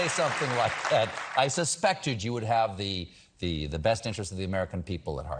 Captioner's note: applause